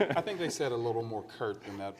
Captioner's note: laughs